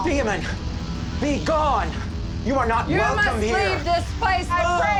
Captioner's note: all together screaming